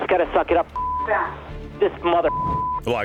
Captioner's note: beep; beep